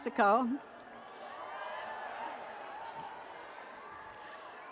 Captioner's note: audience cheering